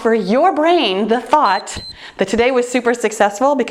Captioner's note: timer beeps